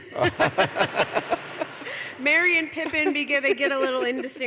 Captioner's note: laughter